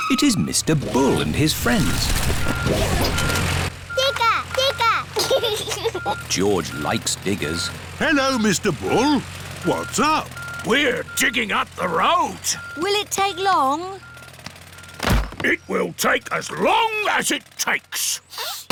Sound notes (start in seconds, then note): 0.0 tires screeching; 2.3 beeping; 5.0 giggles